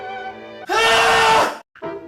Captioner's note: loud Scream